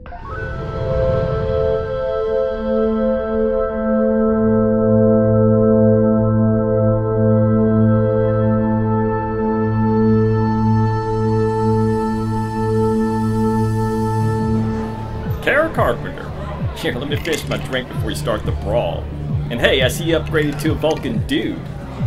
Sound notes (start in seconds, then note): 0.2 interlude music; 14.3 crowd sounds, music